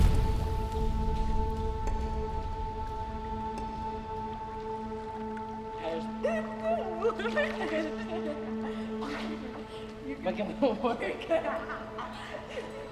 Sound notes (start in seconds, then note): 0.0 dramatic musical flourishing; 5.4 French and Nadia chatting; 6.5 buzzing music